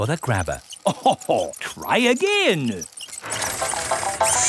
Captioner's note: chuckles